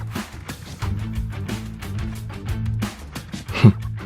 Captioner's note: sobbing